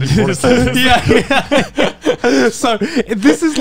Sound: laughing

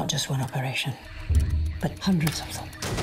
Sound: radio chatter

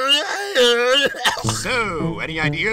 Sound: cough x2

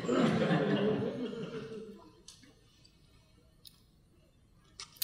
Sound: audience laughing

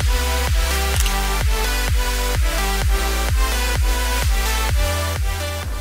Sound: camera beeps and clicks

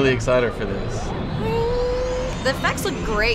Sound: imitates engine

